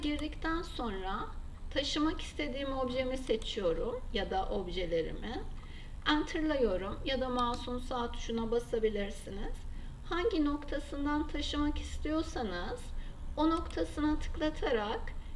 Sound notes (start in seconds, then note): 7.6 right mouse click